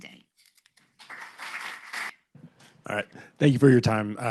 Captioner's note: applause